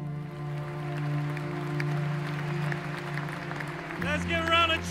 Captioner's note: audience claps